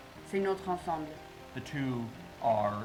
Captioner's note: translator speaking in French